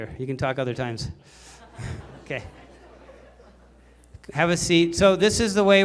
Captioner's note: laughter